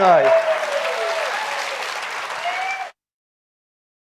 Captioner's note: audience applauds